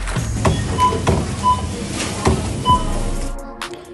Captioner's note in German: Barcode-Scanner piept